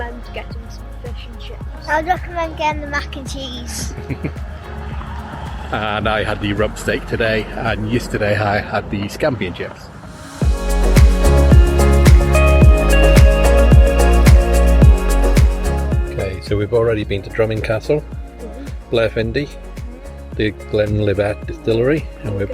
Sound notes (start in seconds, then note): 3.8 chuckles; 11.0 upbeat music